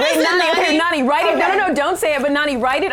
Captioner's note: laughs